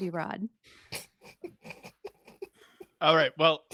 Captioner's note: laughs